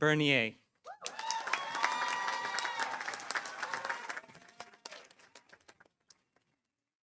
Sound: audience cheering; audience applauding

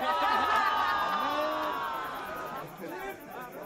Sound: crowd laughing

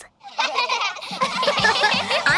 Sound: laughing

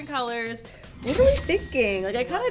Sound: cash register dings

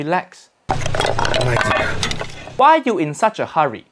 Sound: dishes clattering

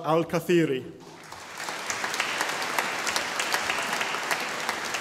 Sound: audience applauding

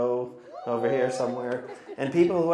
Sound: audience members wooing

